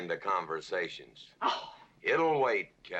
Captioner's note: scoffs